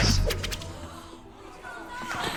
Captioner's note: students gasp